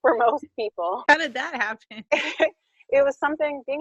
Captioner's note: laughing